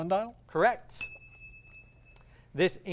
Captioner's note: ding